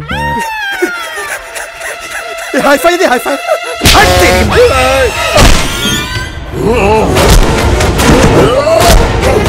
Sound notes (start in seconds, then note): 0.1 Sartaj laughs; 6.6 Grunting